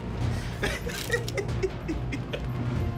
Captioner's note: laughs